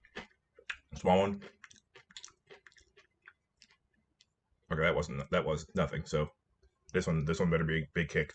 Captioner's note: nom